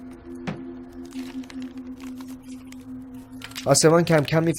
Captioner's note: rustling paper